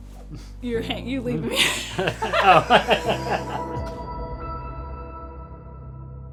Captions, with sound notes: you're going to leave me hanging? [both chuckle]